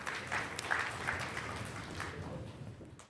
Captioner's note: scattered applause